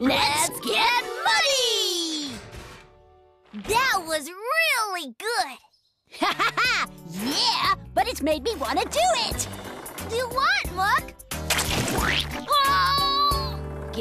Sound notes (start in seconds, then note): 6.1 laughs; 11.5 splash! Splosh!